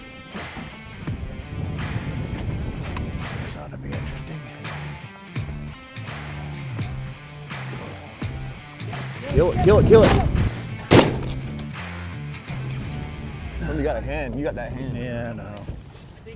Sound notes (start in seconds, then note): 7.7 gun shot